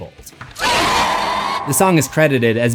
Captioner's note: scream